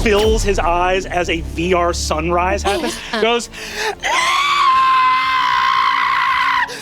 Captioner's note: screeching